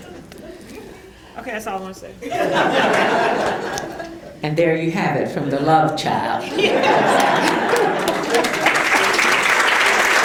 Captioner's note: laughter; applause